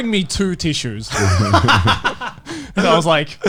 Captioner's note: laughs